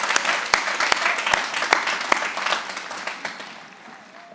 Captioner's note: applause